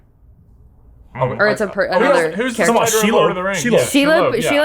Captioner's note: all mumbling in confusion